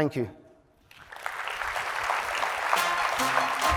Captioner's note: applause